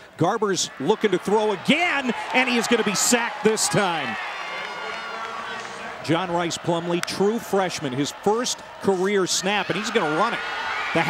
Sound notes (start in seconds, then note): 4.8 crowd cheering